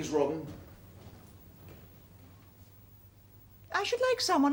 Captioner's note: deadly silence